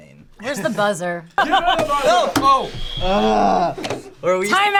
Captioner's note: laughs